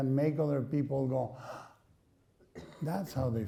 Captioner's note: gasps